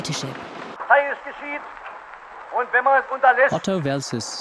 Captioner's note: speaking foreign language